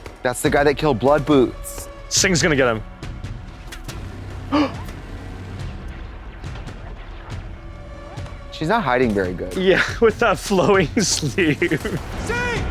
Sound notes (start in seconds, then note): 4.3 suspenseful music; 4.5 gasps